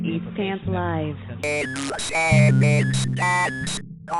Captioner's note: robotic Voice